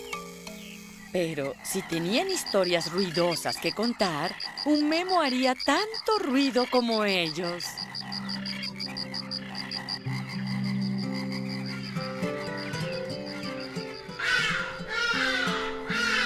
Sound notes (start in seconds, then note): 8.4 crocking, chirping; 9.8 echoes; 13.9 honking